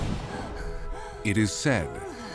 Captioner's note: woman moaning